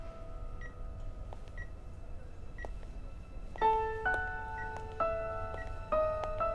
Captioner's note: Footsteps